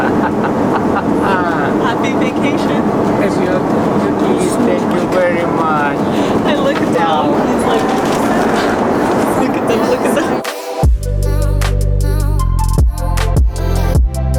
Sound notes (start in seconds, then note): 0.0 laughing; 3.3 grandpa speaking Russian; 11.1 relaxed R&B music